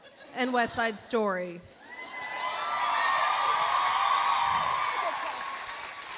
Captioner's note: audience cheering; audience applauding